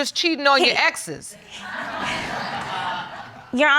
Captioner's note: audience exclaims